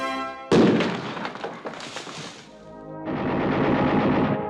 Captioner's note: bomb exploding; machine gun blasting; solemn gospel music